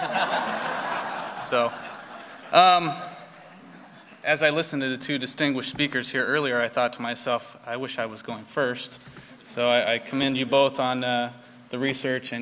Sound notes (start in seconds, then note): 2.4 laughter